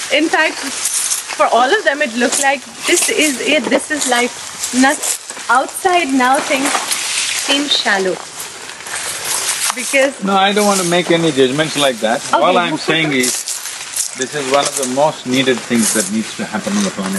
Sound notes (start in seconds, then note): 12.4 laughs